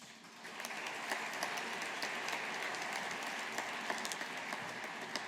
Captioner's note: audience applauding